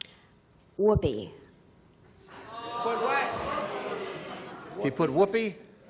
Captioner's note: audience groans